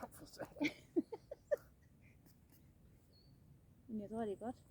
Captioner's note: laughs